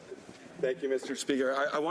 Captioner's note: speaking French